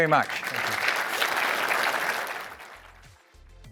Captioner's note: applause